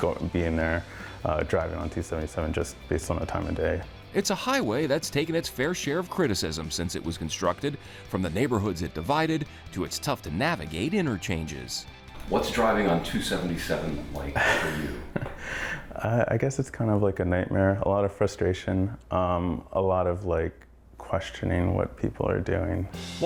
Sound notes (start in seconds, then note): 14.1 laughs